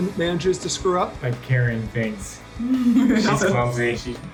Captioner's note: chuckles